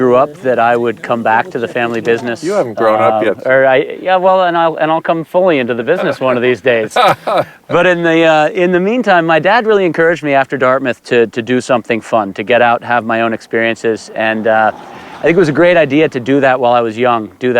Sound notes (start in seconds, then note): 5.9 laughter